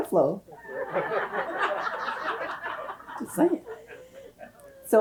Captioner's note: audience laughs